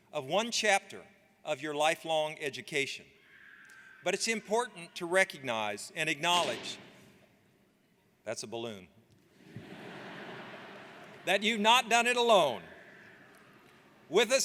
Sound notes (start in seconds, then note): 6.4 balloon pops; 9.4 audience laughs